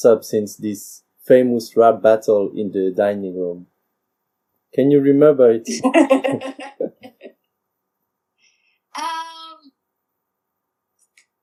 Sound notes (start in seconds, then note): 5.6 Rires